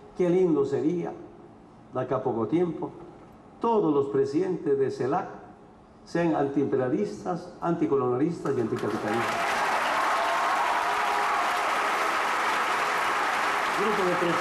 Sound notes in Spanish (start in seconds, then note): 8.5 Aplausos-ovación